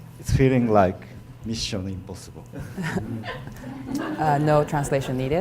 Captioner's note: speaking foreign language